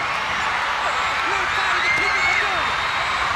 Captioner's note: crowd cheering